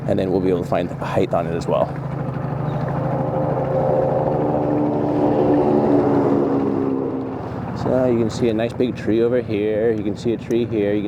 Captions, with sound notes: And then we'll be able to find height on it as well. (helicopter engine whirring) So you can see a nice big tree over here. You can see a tree here.